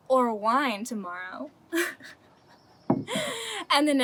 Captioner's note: chuckles